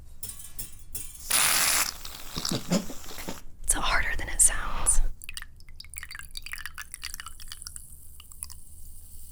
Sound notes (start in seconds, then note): 0.0 metal clanging; 1.2 foam spraying loudly; 5.1 liquid pouring into glass